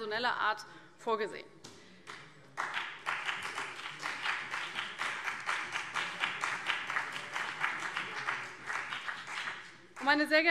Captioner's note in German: Beifall CDU und BÜNDNIS 90/DIE GRÜNEN